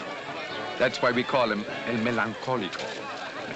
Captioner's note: in spanish